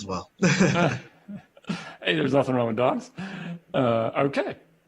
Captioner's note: laughter